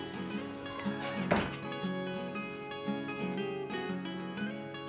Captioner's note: door thuds